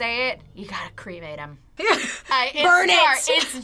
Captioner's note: laughs